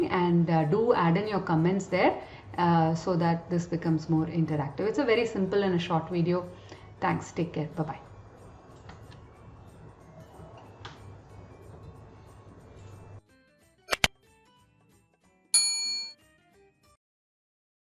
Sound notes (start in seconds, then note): 10.7 light music; 15.5 bell dings